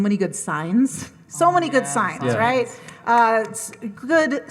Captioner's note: claps